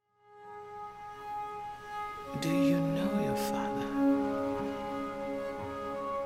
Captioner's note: reflective music plays; woman’s voice